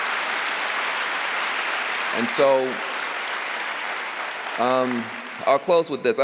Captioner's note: applause